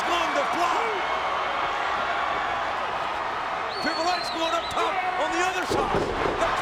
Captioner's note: applause